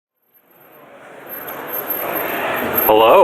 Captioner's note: crowd murmuring